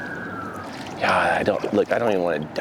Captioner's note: sirens ringing; water splashing